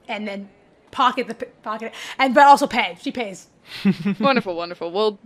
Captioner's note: chuckles